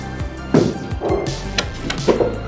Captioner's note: rumble